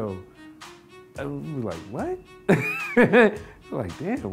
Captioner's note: laughing